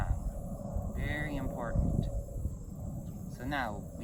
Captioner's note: airplane still overhead